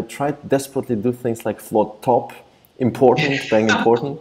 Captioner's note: laughs